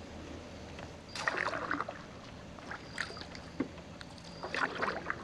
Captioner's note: water rippling